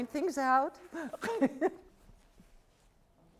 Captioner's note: laughing